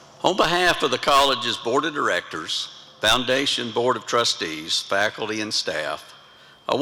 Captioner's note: none